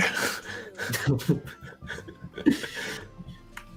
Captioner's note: laughter